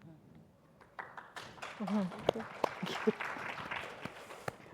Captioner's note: audience applauding